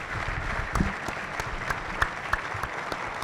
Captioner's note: applause